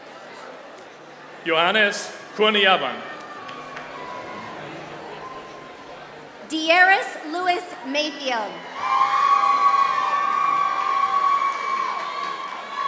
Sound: applause

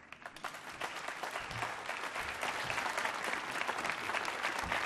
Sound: applause

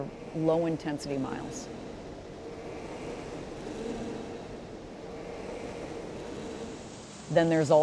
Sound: machines whirring

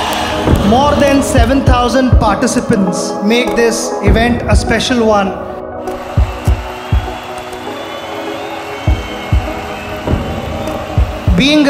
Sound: cheers and Applause

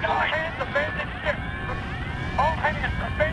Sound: radio

